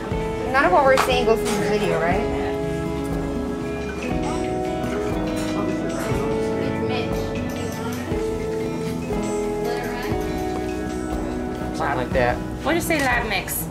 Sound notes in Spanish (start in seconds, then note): 5.7 Charla de fondo